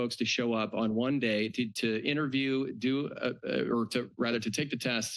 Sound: stutters

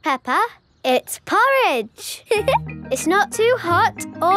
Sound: giggles

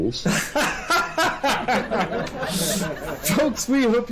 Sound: laughs

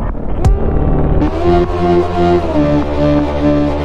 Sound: screaming

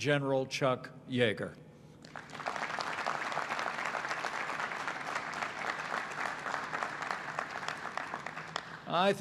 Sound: applause

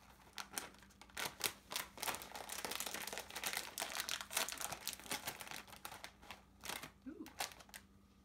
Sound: crinkles

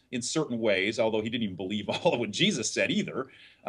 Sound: laughs

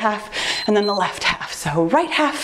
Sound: timer beeps

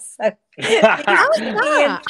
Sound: group laughing

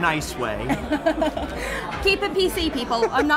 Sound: laughing

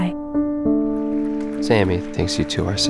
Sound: applause

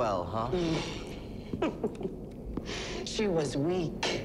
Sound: laughs

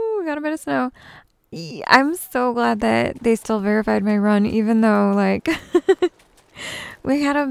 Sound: giggles

